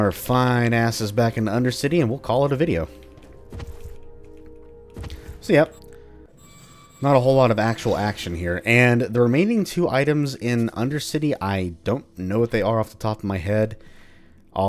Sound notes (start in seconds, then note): 6.3 gate squeaks